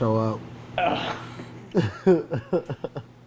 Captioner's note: grunts; laughs